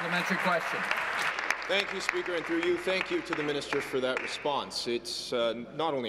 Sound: applause

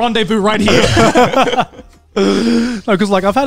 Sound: all laugh

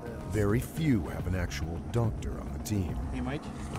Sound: voiceover

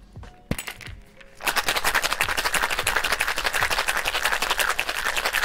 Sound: cocktail shaking

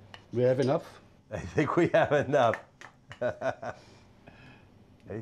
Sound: laughing

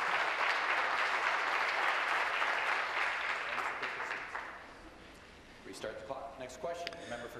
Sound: applause

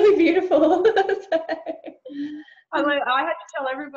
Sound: lauging

